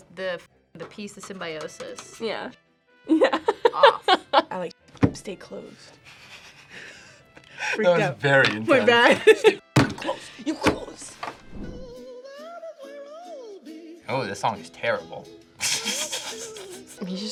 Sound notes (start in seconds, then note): 3.1 laughs; 6.1 both laugh; 8.9 laughs; 11.7 awkward music; 15.6 laughs